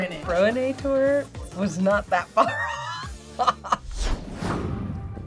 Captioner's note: laughs